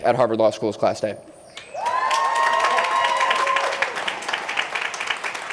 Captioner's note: applause